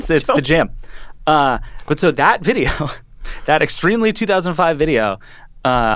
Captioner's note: chuckling